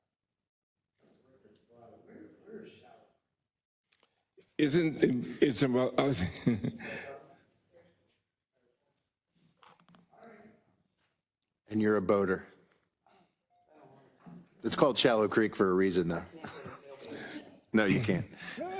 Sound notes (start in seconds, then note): 4.5 laugh